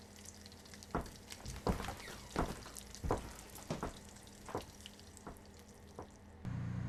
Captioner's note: footsteps